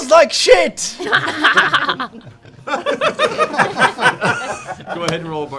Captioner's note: laughter